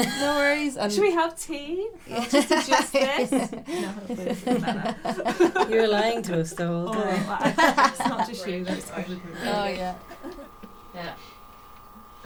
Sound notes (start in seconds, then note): 0.0 laughter; 2.0 laughter; 10.8 laughter